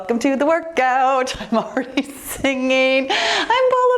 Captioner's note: laughs